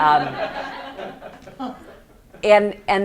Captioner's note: students laugh